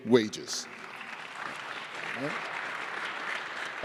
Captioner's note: applause